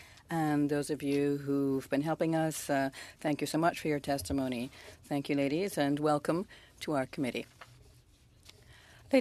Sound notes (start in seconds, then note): 2.4 speaking French